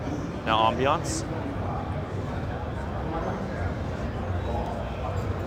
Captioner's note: people chattering